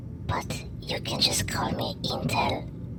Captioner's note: none